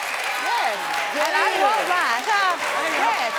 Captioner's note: audience applauding